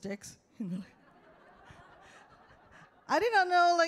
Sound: audience laughs

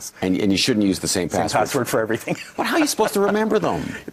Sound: laughs

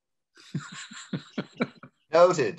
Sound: laughs

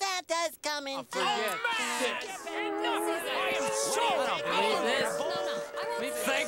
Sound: angry chattering

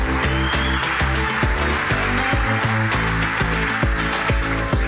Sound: audience applauding

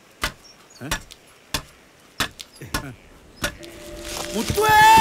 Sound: saw Sound

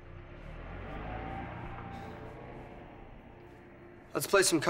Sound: car leaving

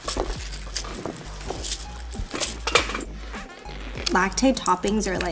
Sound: LACTAID supplements rattling

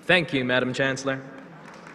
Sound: applause

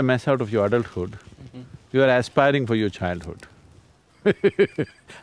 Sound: laughs

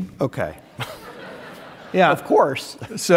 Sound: audience laughing

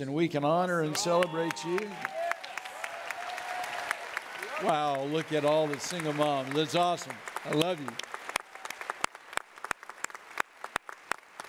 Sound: audience clapping

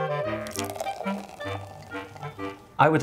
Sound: playful music; champagne fizzes

